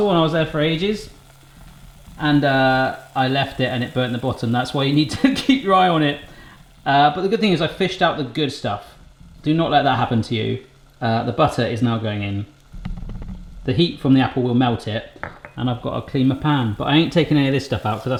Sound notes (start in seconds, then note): 5.1 laughs